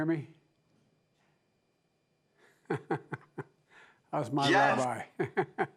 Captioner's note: laughs